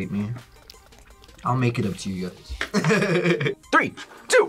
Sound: laughs

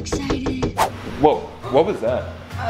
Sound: knocking on door

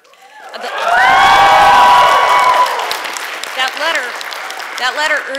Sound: applause

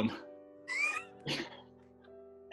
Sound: sniggering

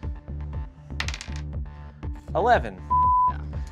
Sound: dice clatter

